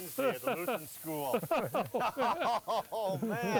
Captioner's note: laughing